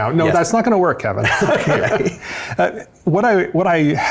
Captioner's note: both laugh